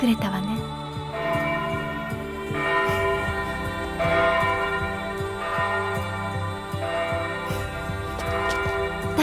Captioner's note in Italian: rintocchi di campana